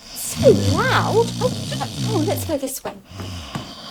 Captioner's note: loud snoring. Footsteps